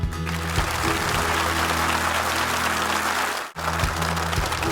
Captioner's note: upbeat music; audience applauding